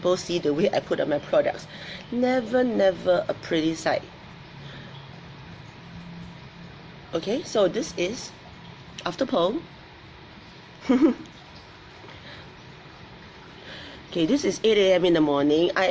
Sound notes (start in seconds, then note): 10.8 laughs